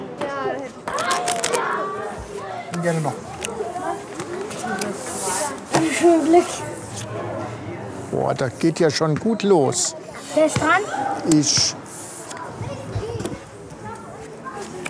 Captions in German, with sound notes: (Gespräche im Hintergrund) Wünscht mir Glück. Boah, das geht ja schon gut los. Wer ist dran? – Ich. (Gespräche im Hintergrund)